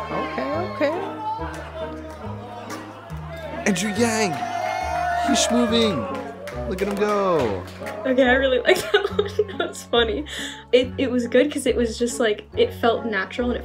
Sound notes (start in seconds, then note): 1.6 cheering; 1.6 soft music